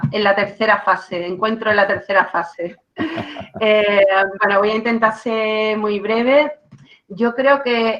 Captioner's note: laughs